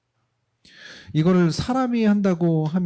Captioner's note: speaking korean